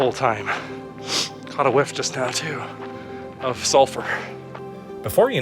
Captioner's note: sniff